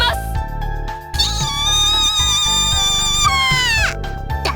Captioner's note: frustrated shriek